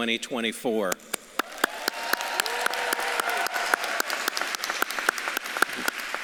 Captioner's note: audience claps and cheers